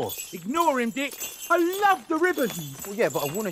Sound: bells jingle

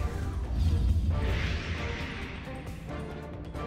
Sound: voiceover

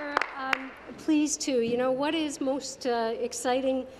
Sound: applause

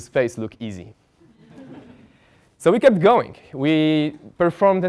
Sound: laugh

